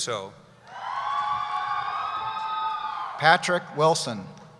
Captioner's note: cheering